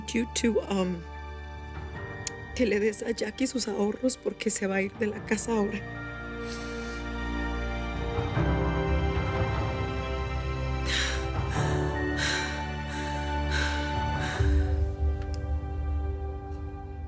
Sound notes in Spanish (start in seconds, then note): 8.0 Respiración agitada